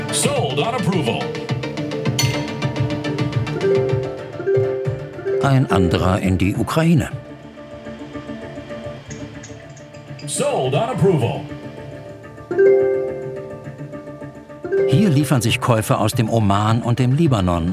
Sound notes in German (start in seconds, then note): 2.1 Klingeln; 7.5 Aufgeregte Musik; 12.4 Klingeln